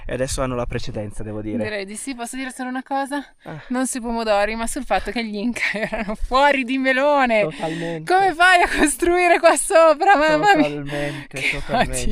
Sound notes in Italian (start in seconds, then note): 5.5 risate